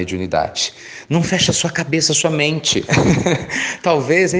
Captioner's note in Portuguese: Risos